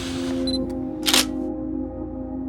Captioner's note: camera clicks